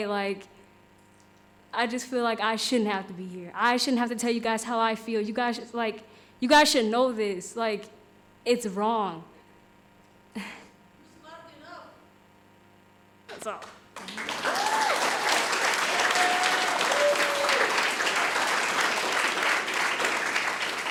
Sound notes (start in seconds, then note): 13.9 audience applauding; 14.0 audience cheering